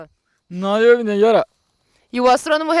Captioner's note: speaking in Tupi-mondé